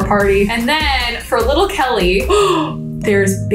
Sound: gasps

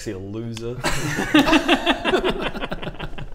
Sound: arrogant laughs

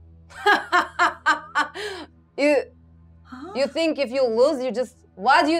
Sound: laughs

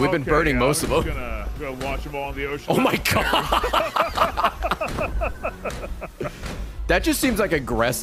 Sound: laughs

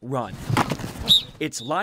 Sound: sounds of football practice

